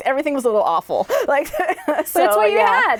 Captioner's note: laughs